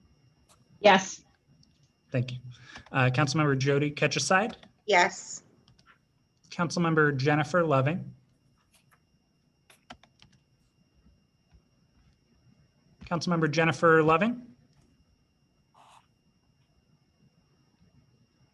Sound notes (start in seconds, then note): 10.3 silence